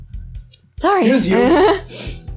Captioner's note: laughs